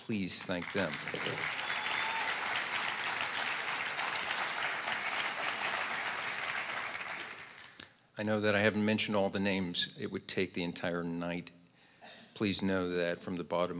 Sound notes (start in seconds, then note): 4.3 applause